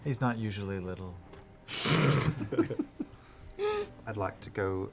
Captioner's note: laughter